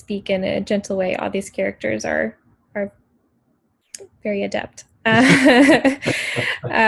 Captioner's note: laughs